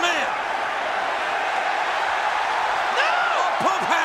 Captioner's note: audience cheering